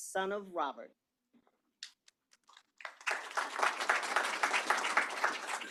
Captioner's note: applause